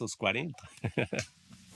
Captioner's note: laughter